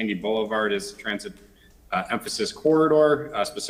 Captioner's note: ~distortion~